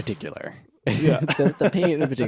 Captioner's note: laughing